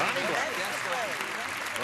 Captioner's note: clapping